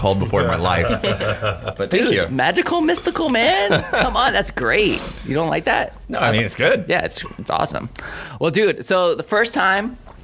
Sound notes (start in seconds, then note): 3.4 laughing